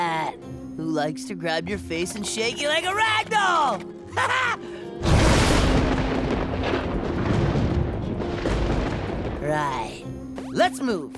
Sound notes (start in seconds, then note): 4.1 chuckles; 5.0 thundering